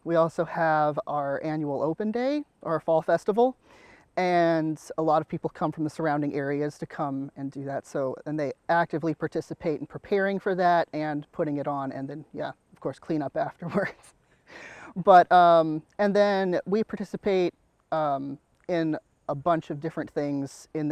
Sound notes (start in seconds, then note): 14.6 laughs